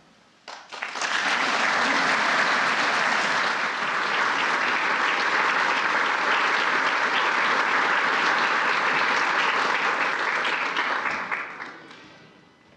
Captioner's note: applause